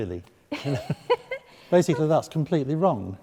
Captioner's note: laughing